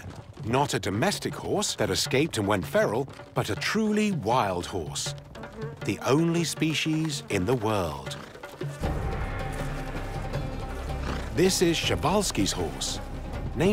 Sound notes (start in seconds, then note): 5.3 fly buzzing